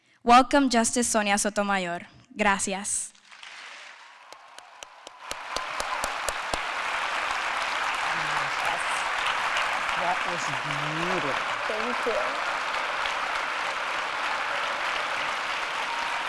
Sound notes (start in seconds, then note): 4.7 applause